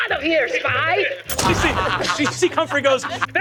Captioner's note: mimics gunshot